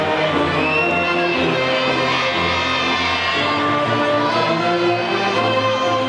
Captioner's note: audience whistling and faintly shouting